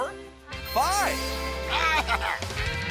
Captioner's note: bleating